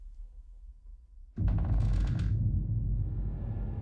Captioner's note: floors creaking